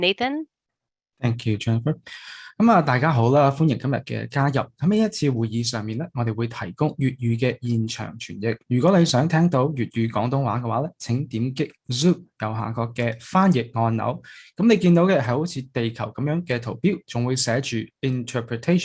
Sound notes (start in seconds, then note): 2.7 Cantonese